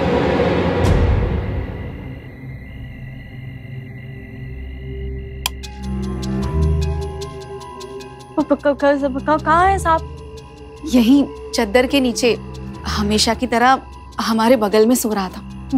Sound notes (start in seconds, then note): 5.4 switch clicks; 8.3 stammers